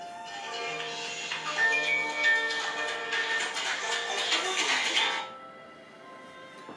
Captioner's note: phone calls